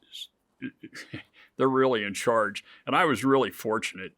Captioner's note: chuckles